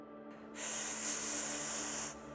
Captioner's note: breathing in